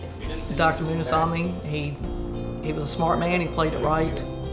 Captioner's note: voiceover